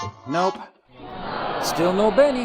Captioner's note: aahhh!